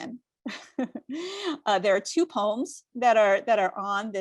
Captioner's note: chuckling